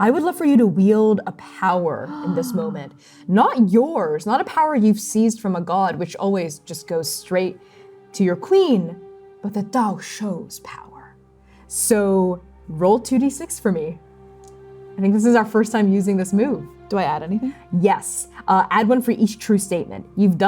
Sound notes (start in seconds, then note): 2.0 gasping